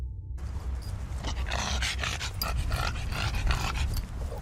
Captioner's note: dog snorting